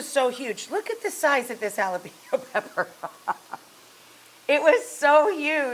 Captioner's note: laughs